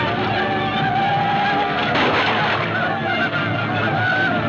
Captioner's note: gunfire pops